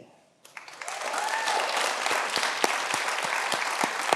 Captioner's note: audience clapping